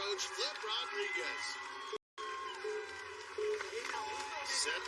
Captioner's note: countdown clock beeping